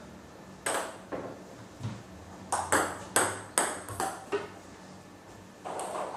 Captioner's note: balls ping pong hitting continues